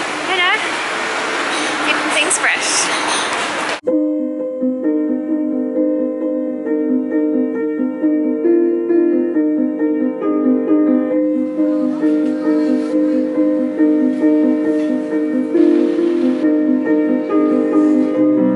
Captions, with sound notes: [sassy] keeping things fresh [piano music]